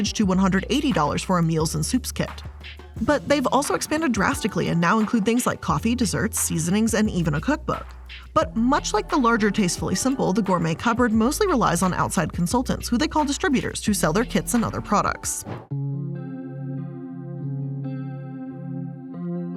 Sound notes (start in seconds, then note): 15.4 mellow music; 15.4 air whooshing